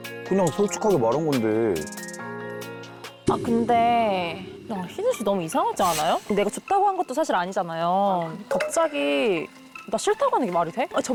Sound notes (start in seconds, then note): 5.8 urgent sound effect